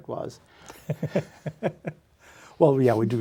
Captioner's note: laughs